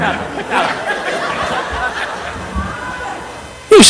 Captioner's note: audience laughing